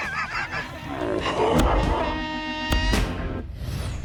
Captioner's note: laughter; slow motion gunshot